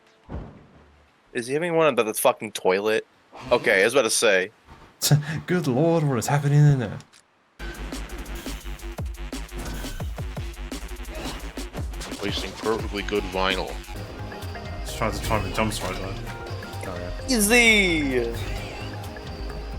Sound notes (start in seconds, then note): 15.4 mumbles to himself